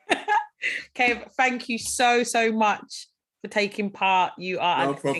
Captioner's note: laughing